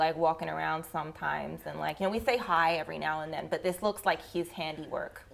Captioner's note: none